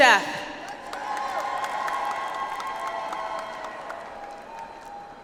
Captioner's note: audience applauds